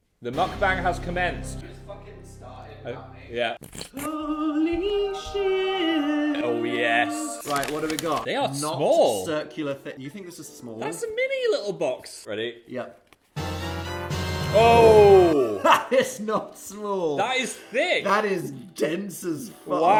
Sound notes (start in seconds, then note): 6.9 choir singing; 7.4 bags crinkling; 13.3 triumphant music; 14.9 laughing